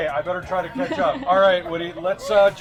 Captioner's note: laughs